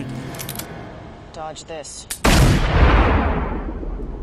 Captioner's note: gunshot